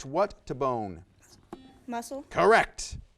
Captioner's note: buzzer buzzes